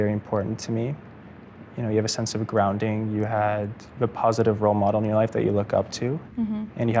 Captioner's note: none